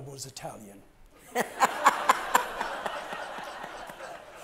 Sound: audience laughs

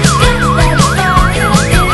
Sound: sirens wailing

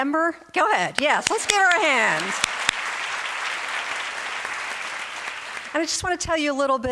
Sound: audience applauds

